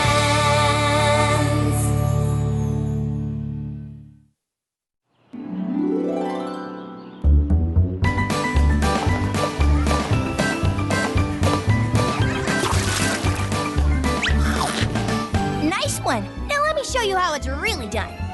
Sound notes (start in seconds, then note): 7.2 upbeat music plays; 12.2 splash!; 14.2 sloop! Chomp!